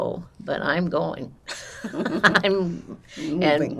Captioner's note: laughing